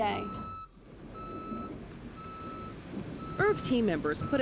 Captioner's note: reverse alarm beeping